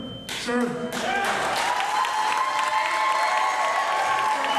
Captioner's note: cheers, applause